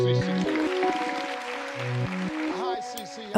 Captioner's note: applause